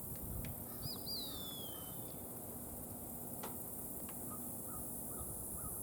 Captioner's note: kite calling in background